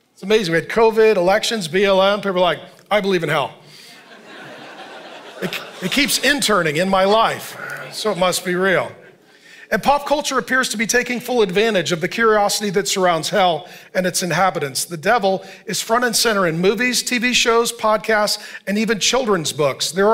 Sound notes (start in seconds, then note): 3.8 congregation laughing